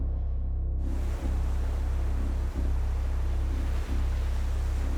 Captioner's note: waves crashing